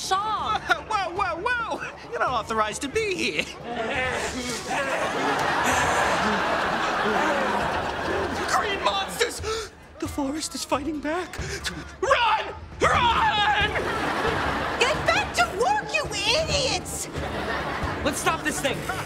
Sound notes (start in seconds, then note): 3.3 panting